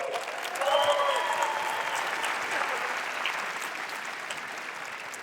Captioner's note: applause